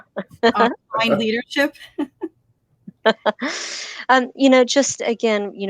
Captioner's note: laughter; laughter